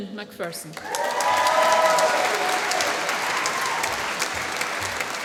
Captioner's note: applause